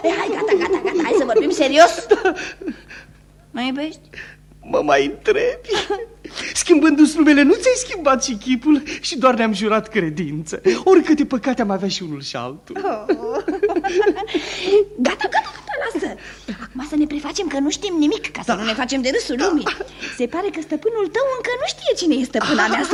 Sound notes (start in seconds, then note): 0.0 laughs; 12.7 they both laugh